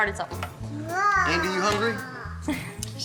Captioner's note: babbles